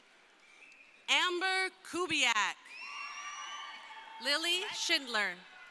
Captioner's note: crowd cheering